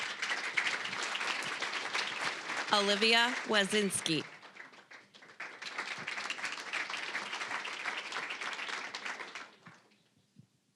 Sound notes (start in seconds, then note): 0.1 applause; 5.6 applause